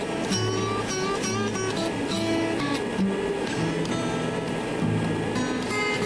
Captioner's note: machinery whirring; twangy guitar music